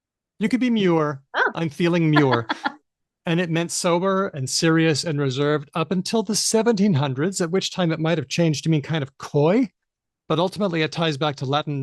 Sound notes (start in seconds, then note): 2.0 laughs